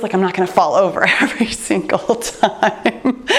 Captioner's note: chuckling